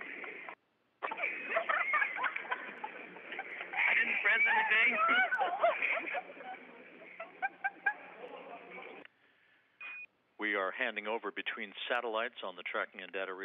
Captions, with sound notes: >> [LAUGHTER.] >> WE ARE HANDING OVER BETWEEN